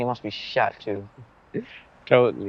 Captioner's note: Ayman chuckles